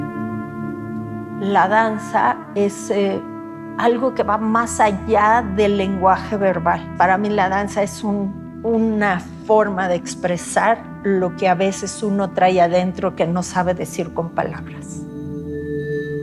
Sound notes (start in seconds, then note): 3.3 speaking Spanish